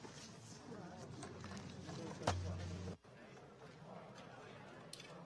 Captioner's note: people chatting